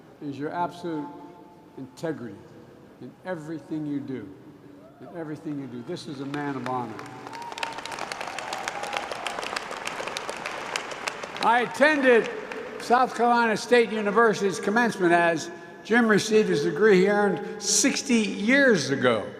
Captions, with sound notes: is your absolute integrity in everything you do -- in everything you do. This is a man of honor. (Applause.) I attended South Carolina State University's commencement as Jim received his degree he earned 60 years ago